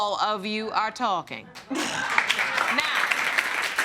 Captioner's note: audience applauding